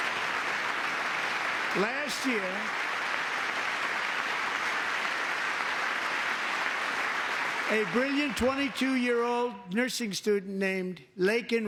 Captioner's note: applause